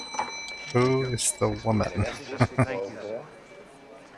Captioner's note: chuckling